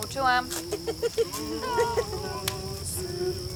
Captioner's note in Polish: śmiech